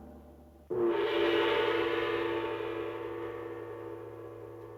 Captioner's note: gong banging